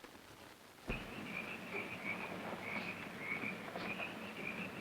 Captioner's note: insects chirping